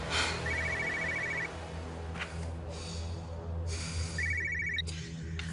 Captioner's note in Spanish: Suena el celular